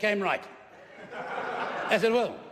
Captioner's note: laughter